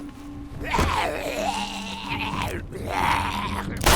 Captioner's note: zombie snarling; gunshot